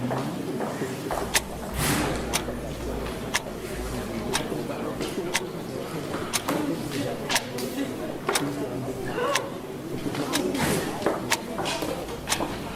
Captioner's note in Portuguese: Relógio tique-taqueando